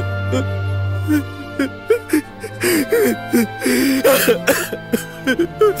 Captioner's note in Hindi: रोना